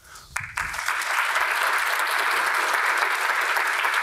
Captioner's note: audience applause